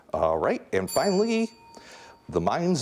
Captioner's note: bell dinging